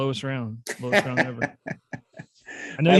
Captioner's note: laughter